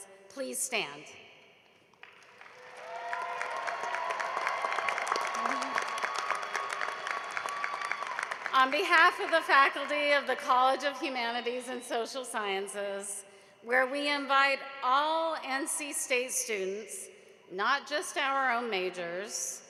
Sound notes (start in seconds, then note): 5.7 cheering and applause